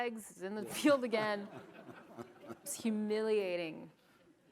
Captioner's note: audience chuckles